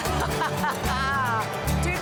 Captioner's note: laughter